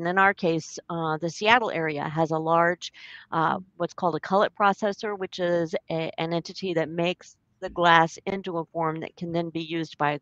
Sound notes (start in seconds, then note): none